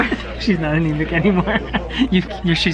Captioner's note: laughs